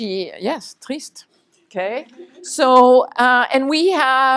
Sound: french

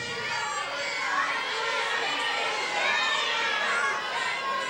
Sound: crowd shouting

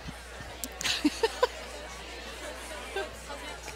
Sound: laughs

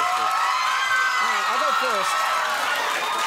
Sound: audience cheers

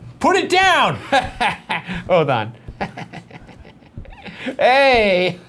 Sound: laughs

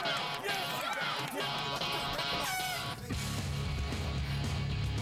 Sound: horn toots

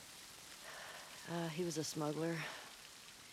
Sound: sigh

